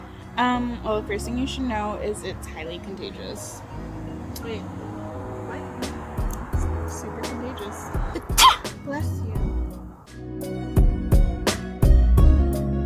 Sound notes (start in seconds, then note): 8.3 sneezes